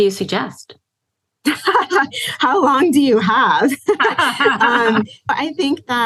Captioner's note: laughs